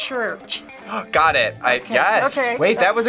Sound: gasps

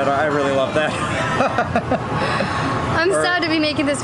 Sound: laughs

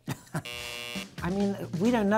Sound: clock ticking; light chuckle; buzzer buzzing

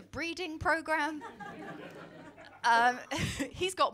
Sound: laughter

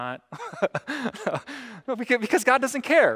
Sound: pastor: Laughter

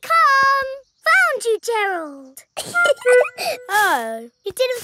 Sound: giggling

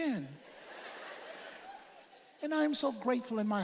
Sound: audience laughs

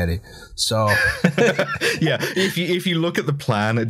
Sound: laughter

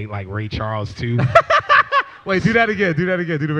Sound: laughs

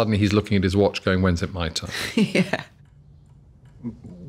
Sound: chuckles

